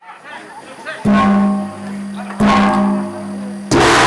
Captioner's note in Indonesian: pemukulan gong